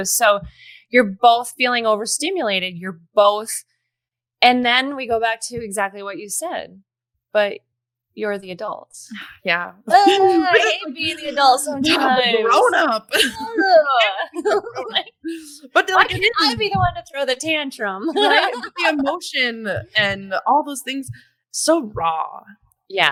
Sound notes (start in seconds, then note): 18.0 laughs